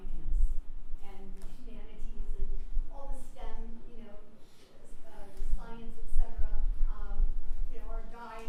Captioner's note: voiceover